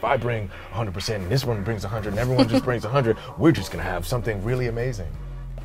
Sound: chuckles

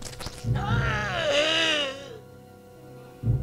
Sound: grunting

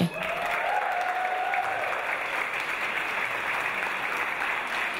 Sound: audience applause

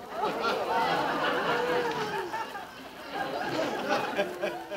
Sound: audience laughing

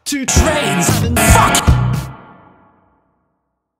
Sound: reverb-ed

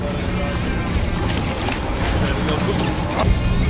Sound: water splashes

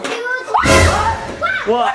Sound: screaming; jump scare sound

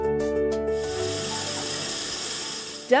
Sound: glass filling with water

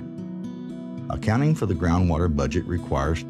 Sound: voiceover

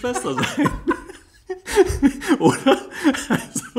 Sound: laughs

